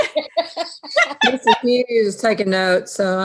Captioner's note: giggles